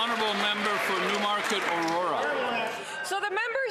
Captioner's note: cheering and Applause